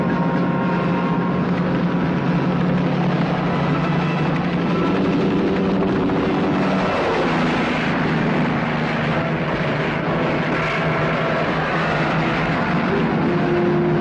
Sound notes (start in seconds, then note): 5.6 helicopter roaring; 5.6 truck engine whirring